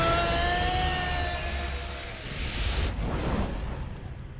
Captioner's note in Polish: kung fury wrzeszczy, a muzyka sie traci